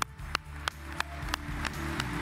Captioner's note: applause